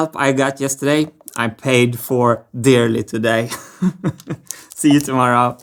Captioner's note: chuckles